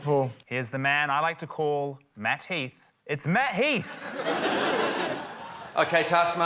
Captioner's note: laughter